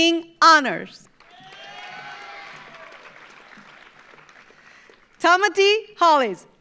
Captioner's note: audience applauds; audience cheers